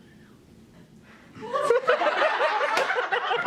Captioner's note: laughing